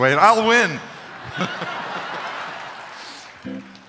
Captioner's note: chuckling, crowd laughing